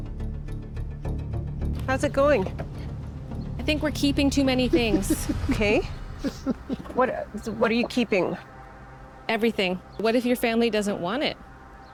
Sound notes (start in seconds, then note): 6.1 laughs